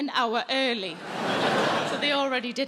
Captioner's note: audience laughs